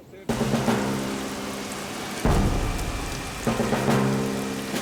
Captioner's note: rain pattering; dramatic instrumental music